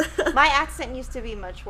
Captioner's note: chuckles